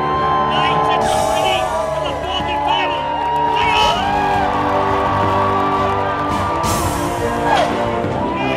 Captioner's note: sound of the Master of Ceremonies